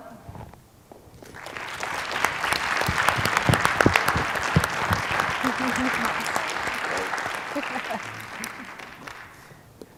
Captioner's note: applause